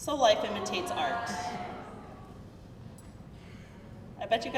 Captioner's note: crowd murmuring